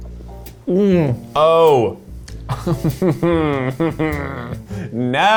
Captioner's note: laughs